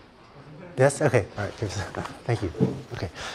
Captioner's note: laughter